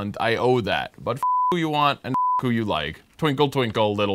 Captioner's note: beep